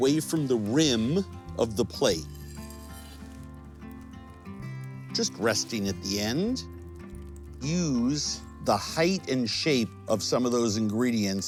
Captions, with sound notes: from the rim of the plate, (knife sliding) Just resting at the end. Use the height and shape of some of those ingredients.